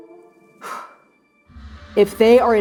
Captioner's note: exhaling